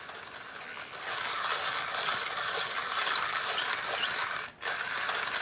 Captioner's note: grinder scraping